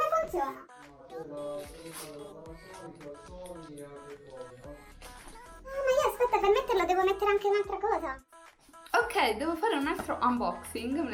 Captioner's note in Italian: voce di sottofondo